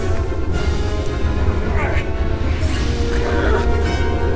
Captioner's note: groaning and grunting